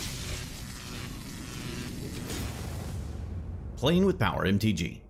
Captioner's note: electric crackling